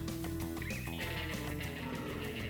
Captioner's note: growls